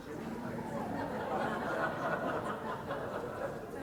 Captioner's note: laughter